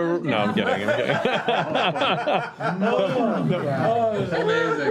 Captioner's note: laughter